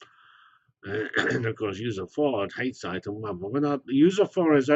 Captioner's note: cough